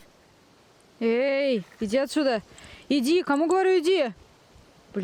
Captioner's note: talking with a bear in Russian